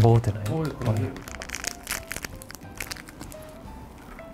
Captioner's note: ripping it up